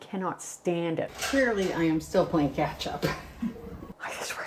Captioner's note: chuckles